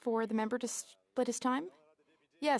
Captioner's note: speaking French